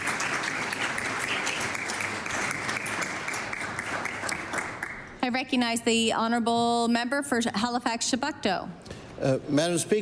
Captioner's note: applause